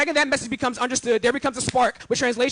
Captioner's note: hands clapping